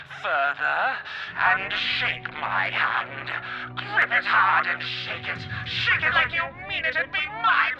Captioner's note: demonic voice